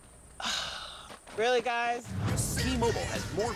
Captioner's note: sighs